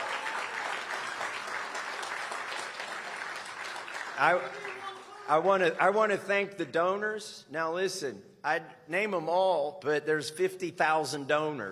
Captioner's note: applause